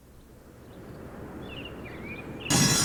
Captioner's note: birds chirping; metal grinding